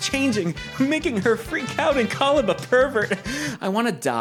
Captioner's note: laughs